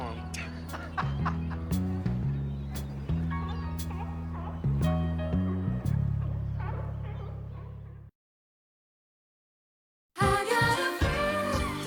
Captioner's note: Bridges laughing